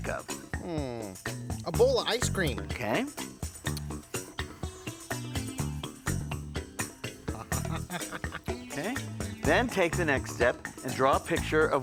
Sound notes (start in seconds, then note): 3.7 funky music; 7.2 Gabe laughs